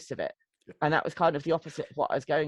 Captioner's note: chuckles